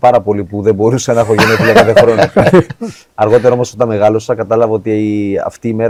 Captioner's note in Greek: γέλια